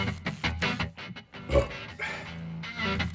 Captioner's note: burp